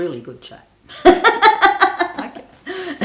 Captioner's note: both laughing